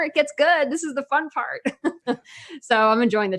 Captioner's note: laughs